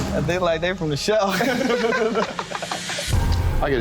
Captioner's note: laughter